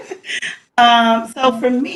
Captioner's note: laughs